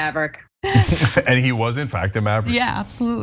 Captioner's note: laugh